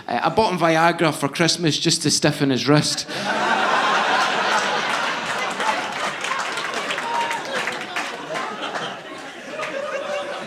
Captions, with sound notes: I bought him Viagra for Christmas just to stiffen his wrist. (audience laughing) (audience applauding)